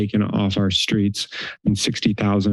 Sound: inhales

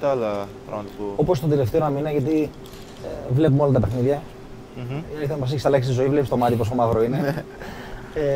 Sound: laughs

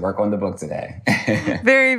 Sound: laughs

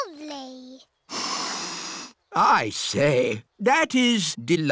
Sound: sniffs

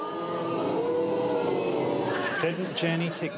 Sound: audience booing

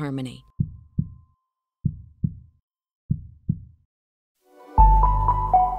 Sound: heart beating; gentle music

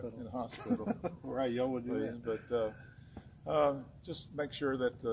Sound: laughter

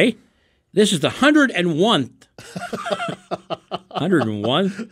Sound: laughing

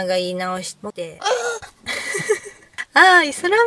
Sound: laughs

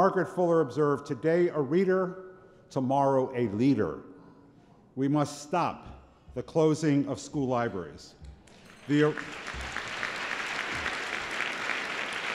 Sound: applause

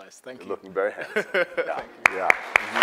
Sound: man laughs; audience applauds

